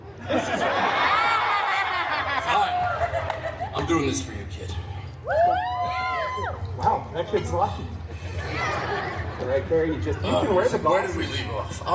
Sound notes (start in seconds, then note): 0.0 guests laughing; 5.2 guests cheering